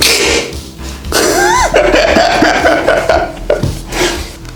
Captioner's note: laugh